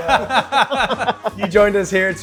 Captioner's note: hearty laughter